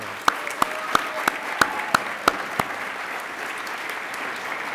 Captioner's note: attendees applaud